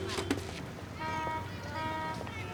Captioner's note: horns continue honking